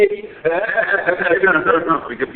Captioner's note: laughing